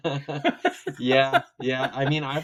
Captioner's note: both laughing